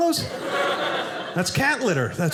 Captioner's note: audience laughing